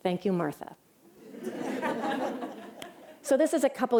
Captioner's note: laughter